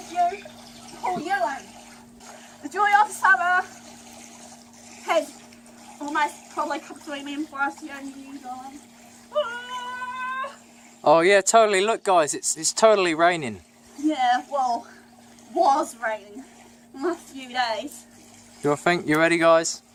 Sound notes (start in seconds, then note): 9.3 crying out in cold